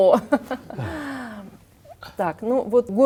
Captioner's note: laugh